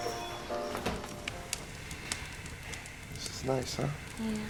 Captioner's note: fire crackling